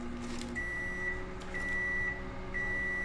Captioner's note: microwave beeping